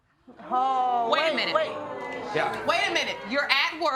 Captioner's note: audience gasp